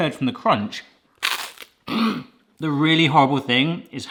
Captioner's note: bread crunching